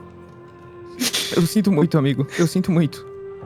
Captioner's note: crying